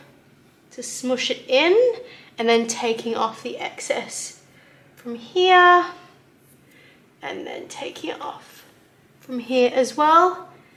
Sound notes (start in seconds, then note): none